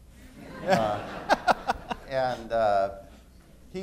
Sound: laughter

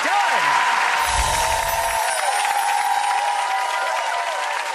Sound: audience applause

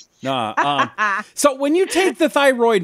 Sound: laughs

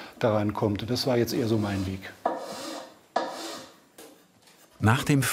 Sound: planing noises

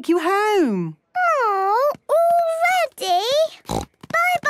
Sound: snort

